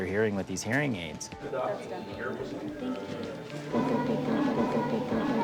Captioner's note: indistinct chatter